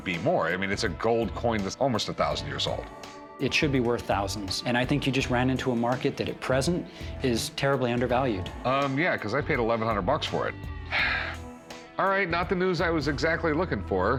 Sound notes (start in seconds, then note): none